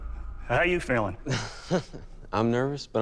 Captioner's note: laughs